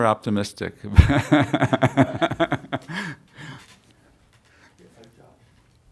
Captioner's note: laughter